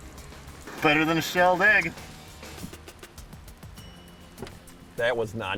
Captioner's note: voiceover